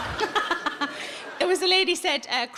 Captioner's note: audience laughs; Sarah laughs